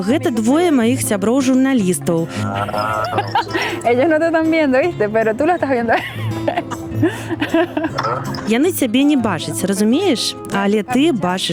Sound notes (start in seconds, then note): 2.2 laughs